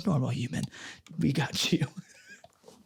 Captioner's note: laughs